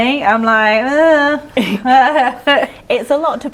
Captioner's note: panic noises